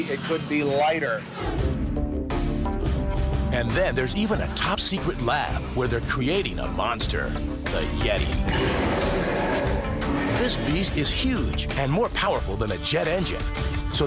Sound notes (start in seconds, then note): 1.2 swoosh